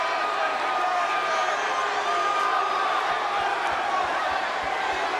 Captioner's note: audience cheers